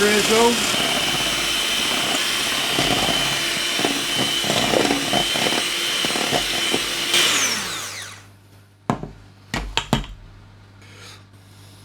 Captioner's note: whisk drill whirring